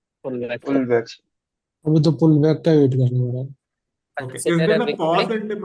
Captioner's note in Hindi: गला साफ़ करने की आवाज़